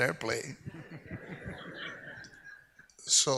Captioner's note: audience laughs